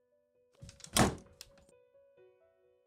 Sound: door slams

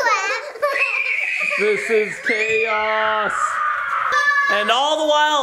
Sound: begins crying

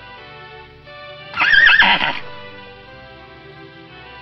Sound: horse sound effect

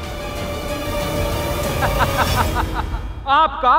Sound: laughs

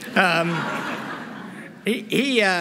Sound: laughter

